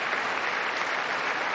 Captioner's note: applause